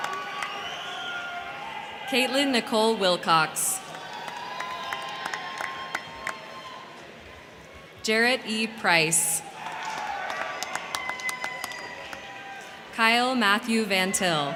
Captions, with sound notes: (crowd cheering) (crowd clapping) - Kaitlyn Nicole Wilcox. (crowd cheering) (crowd clapping) Jared E. Price. (crowd cheering) (crowd clapping) Kyle Matthew Van Till.